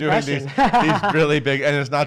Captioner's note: laughs